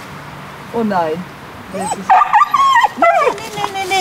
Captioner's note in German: Der Hund bellt und winselt